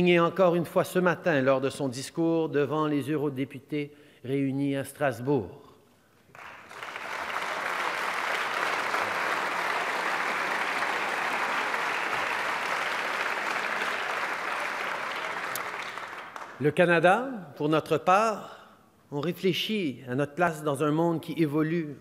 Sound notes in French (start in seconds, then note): 6.2 Applaudissements